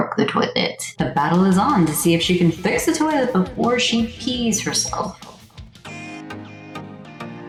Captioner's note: announcer echo